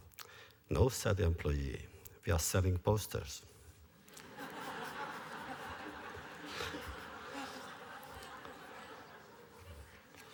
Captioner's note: laughter